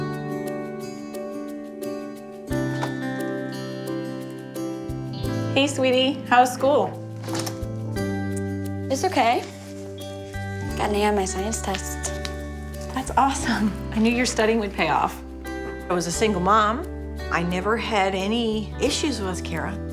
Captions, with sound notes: (door clicks) - Hey, sweetie, how was school? (door clicks) - It's okay, got an A on my science test. - That's awesome, I knew your study would pay off. I was a single mom, I never had any issues with Kara.